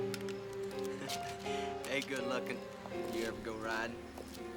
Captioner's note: chuckles